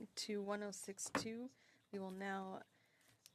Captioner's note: speaking in French